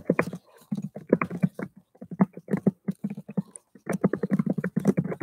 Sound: keyboard rumbling

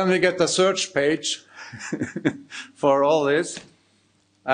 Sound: chuckling

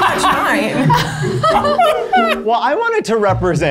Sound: laughing

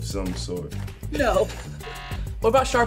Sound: laughs; buzzer

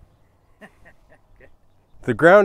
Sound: laughing

